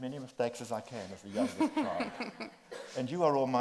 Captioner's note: group laughs